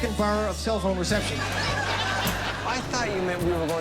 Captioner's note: laughter